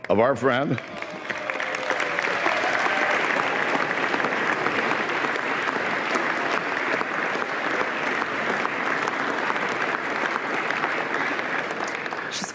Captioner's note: applause